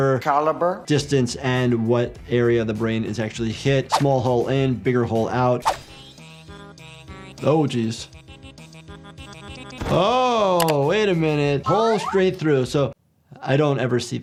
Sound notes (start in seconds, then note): 5.1 air whooshing; 5.1 mellow music; 9.3 body thudding